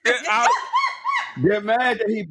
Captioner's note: laughing